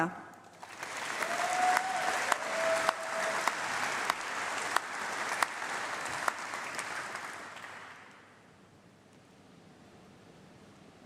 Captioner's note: applause